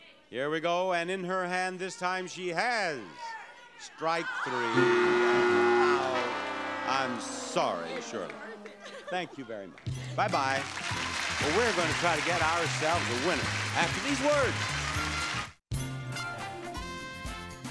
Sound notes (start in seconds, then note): 4.6 buzzer sounds; 14.9 upbeat music